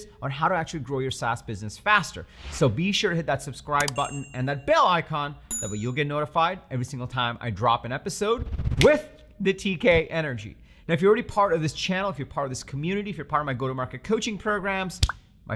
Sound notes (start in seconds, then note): 3.8 button clicking; 5.5 bell ringing; 8.8 fingers snapping